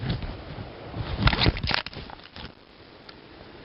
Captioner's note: click